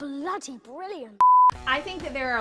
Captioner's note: beep